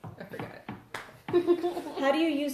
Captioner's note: laughter